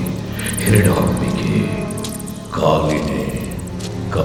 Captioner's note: chanting